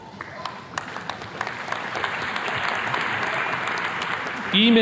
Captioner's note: attendees clapping